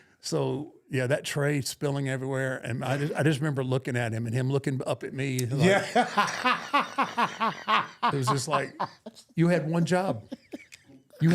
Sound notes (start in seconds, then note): 5.6 laughs